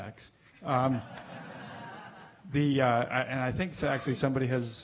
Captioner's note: laughing